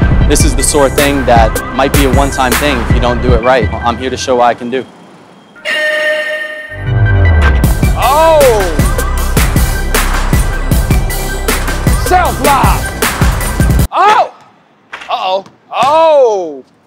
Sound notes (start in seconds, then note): 5.5 buzzer beeps; 6.9 hip-hop music